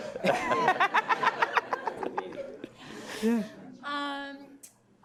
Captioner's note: laughs loudly